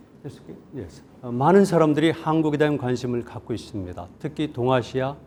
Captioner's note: speaking in Korean